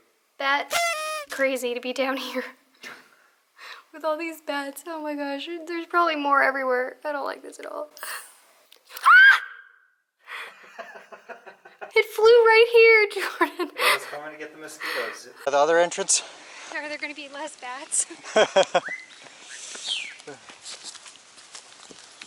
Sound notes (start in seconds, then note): 9.0 screams; 10.5 laughter; 18.1 laughter